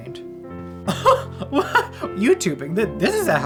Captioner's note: laughing